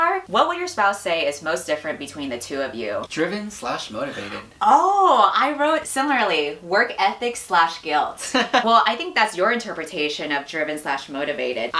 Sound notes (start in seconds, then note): 8.2 laughs